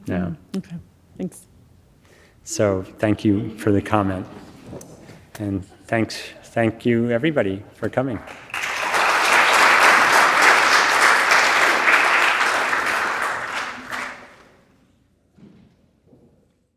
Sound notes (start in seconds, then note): 8.1 audience applauding